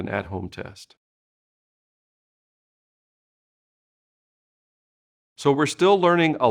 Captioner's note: silence